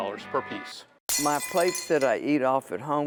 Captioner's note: plate shatters